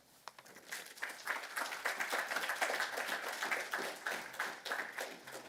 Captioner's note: applause